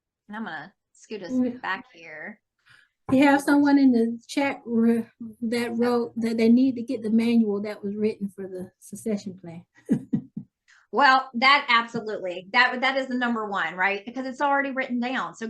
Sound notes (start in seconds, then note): 9.9 laughing